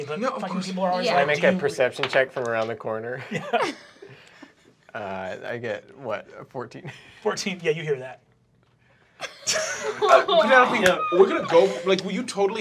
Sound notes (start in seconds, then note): 3.2 chuckling; 9.2 laughter